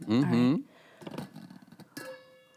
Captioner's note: pot clattering